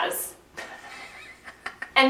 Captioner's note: quietly wheezing with laughter